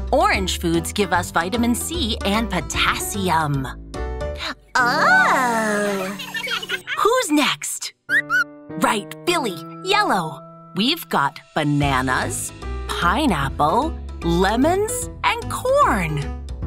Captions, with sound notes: Orange foods give us vitamin C and potassium. Oh! Who's next? [chirps] Right, Billy. Yellow! We've got bananas, pineapple, lemons and corn!